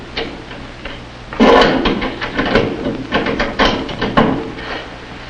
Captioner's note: lock snaps